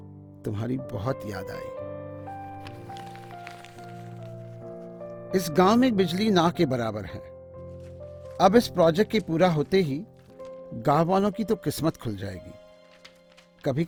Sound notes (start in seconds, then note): 2.2 paper rustles